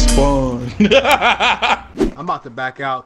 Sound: laughing

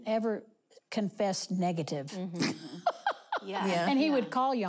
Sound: laughing

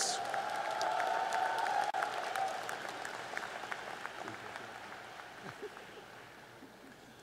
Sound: applause

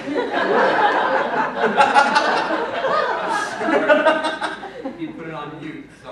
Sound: laughter

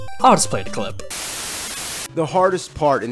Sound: static

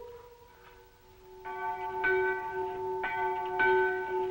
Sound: bell tolling

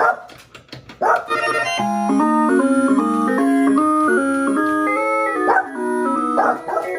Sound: arcade game sounds; Lemonade barking

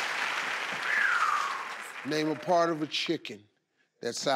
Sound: exhales

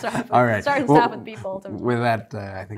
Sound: laughs

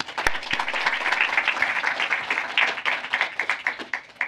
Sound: applause

